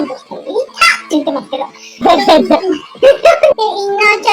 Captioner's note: laughs